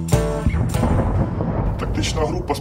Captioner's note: mortar incoming explosion sound